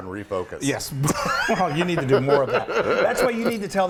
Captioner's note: laugh